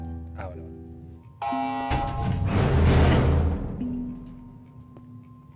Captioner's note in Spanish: Sirena y apertura de puertas; Música de tensión